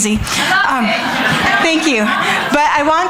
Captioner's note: audience chattering